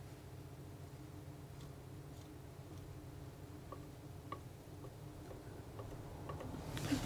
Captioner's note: tapping on paint